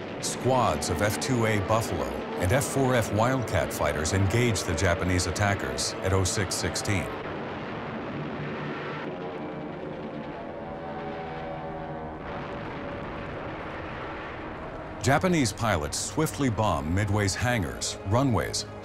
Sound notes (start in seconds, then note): 7.3 planes flying; 12.1 explosions